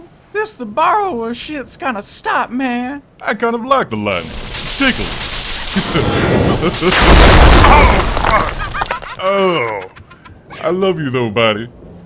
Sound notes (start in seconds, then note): 5.7 laughs; 7.4 lightning hits dragon face sfx